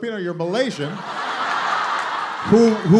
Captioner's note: laughter